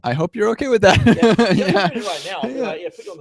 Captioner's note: laughter erupts